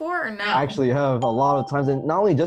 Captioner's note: ding